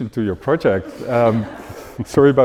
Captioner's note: audience laughing